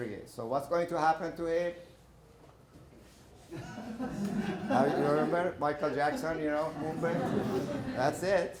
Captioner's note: laughter